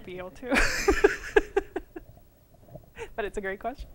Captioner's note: laughter